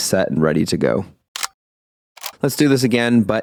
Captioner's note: camera clicking